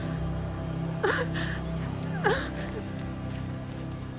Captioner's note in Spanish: sollozos